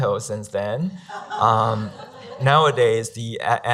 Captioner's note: laughing